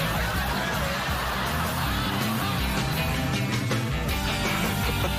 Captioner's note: laughing